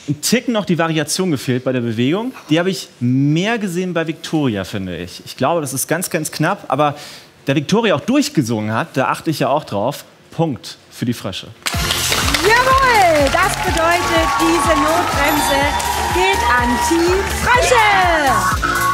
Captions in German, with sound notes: Mir hat bisschen die Variation bei der Bewegung gefehlt. Die habe ich mehr bei Viktoria gesehen. Es ist ganz knapp, aber Viktoria hat auch durch gesungen. Punkt für die Frösche. Jawoll. Diese Notbremse geht an Team Frösche. (Jubel)